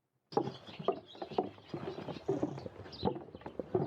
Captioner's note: footsteps